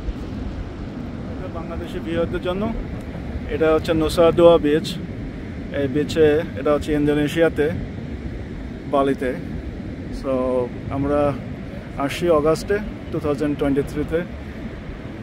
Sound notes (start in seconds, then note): 1.4 bengali Language